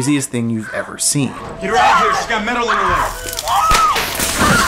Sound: screaming; cracking

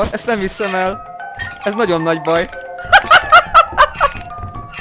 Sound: laughs

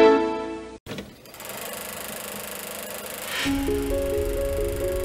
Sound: nostalgic music plays; film projectors rolling

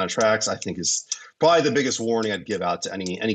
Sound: murmurs

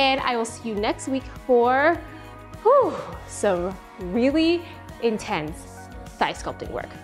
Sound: sighs

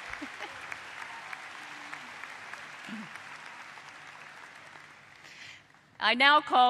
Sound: applause

